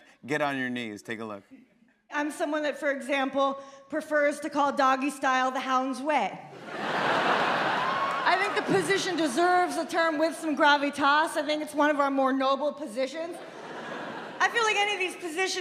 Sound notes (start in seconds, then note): 6.5 laughter